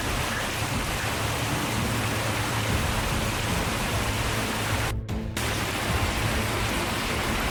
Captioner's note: rain pouring